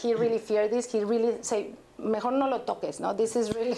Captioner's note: spanish